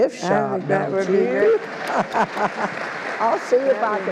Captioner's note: all applauds